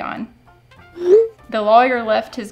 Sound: text whooshing

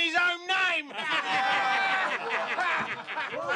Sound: all laughing

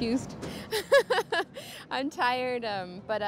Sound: laughs

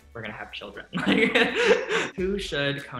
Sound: laughs

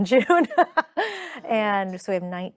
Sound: chuckling

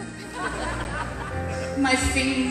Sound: audience laughter

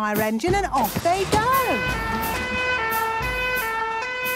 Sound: siren sounding

